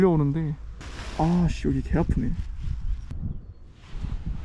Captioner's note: heels are being rubbed